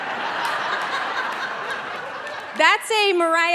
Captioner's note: audience laughing